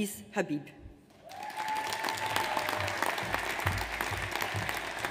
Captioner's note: audience applauds